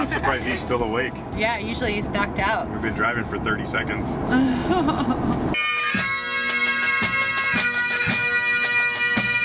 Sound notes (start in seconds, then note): 0.2 laughter; 4.4 laughing; 5.5 bagpipe and drum music